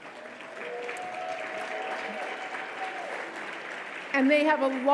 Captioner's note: audience applauding